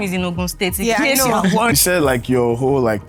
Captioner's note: laughs